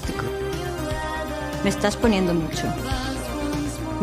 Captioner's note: speaks in english